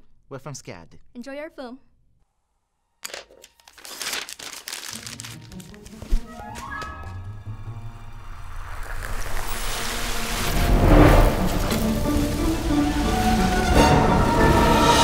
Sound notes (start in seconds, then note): 8.4 Coke bottle erupts; 10.3 popcorn pops